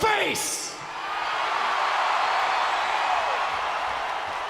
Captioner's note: crowd cheers